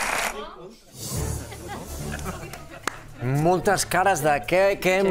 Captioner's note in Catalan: aplaudiments